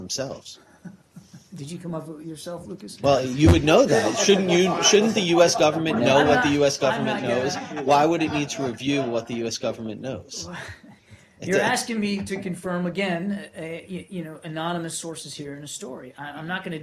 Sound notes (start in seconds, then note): 2.3 laughter